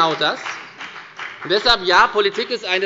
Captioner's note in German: Beifall bei der FDP